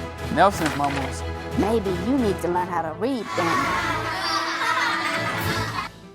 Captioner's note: classmates laughing